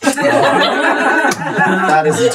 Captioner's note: laughing